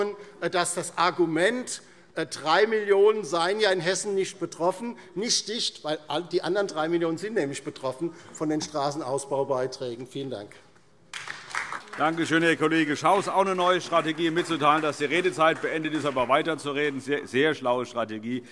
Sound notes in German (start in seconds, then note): 11.1 Beifall DIE LINKE und vereinzelt SPD